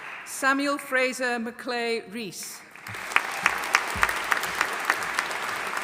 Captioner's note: audience applauding